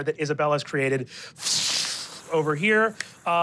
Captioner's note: imitates fire whooshing